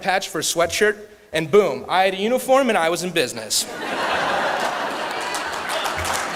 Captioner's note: laughter; clapping